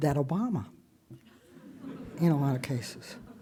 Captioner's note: audience chuckles